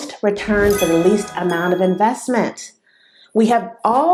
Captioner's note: sound effect